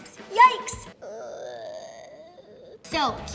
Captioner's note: cries quietly